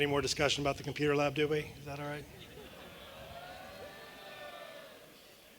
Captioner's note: applause